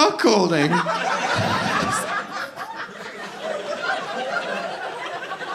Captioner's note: audience laughing